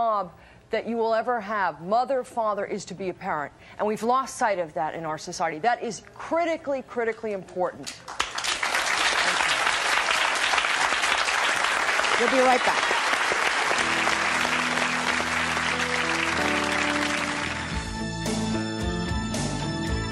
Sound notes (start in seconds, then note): 8.0 audience applauding; 13.6 gentle music; 17.3 dramatic music